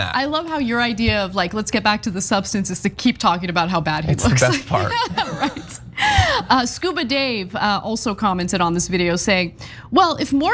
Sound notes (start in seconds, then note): 4.5 laugh